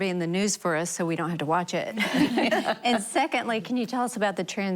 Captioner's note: laughter